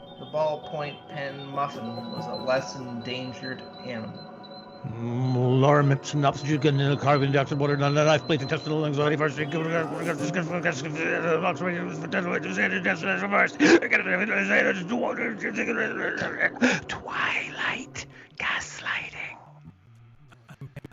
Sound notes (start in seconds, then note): 6.7 whispered; 13.0 glitches and blips